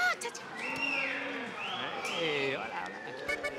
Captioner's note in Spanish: Silbidos y exclamaciones